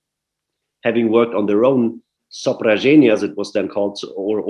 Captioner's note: russian